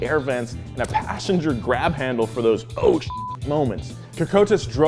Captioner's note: beep